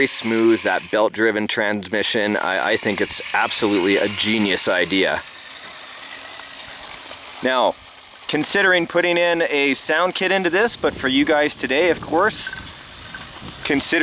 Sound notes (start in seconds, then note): 5.3 remote control car sound